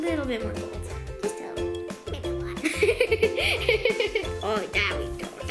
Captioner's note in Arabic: يضحك